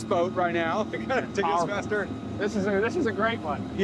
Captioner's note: chuckles